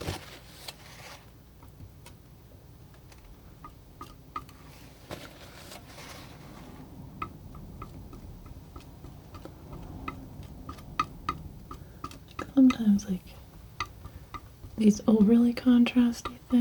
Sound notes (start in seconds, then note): 2.3 tapping